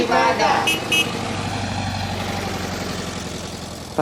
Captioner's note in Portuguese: som de buzina do fusca